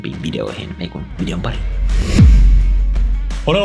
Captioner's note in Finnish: siirtymä-äänitehoste